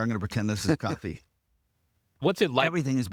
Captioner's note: laughing